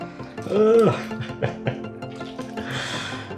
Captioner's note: slightly agonized groan